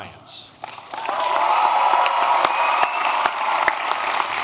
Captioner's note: applause